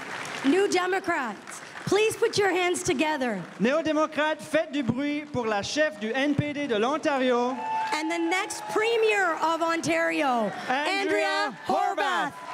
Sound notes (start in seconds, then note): 9.2 cris et aplaudissements de la foule